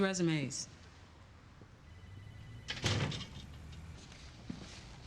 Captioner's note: door closes